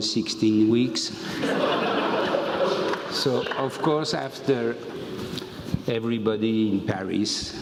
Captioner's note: laugh